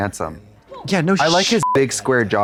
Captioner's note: beep